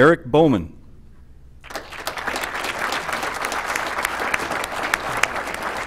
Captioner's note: applause